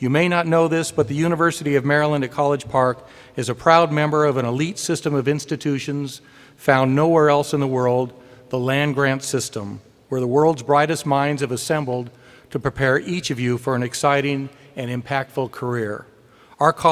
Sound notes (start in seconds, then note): none